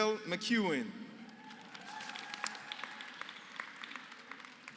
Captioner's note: applause